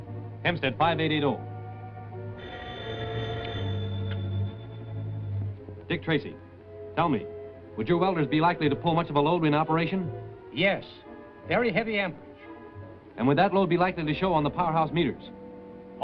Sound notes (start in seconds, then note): 2.3 phone ringing